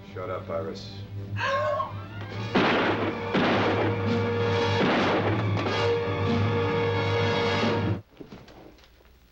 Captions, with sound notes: - Shut up, Iris. (gasping) (gun firing)